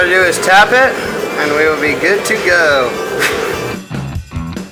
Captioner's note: blows; funky music